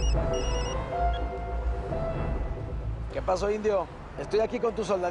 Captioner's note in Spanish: Suena un celular